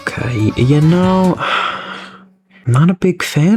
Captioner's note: exhales Oxygen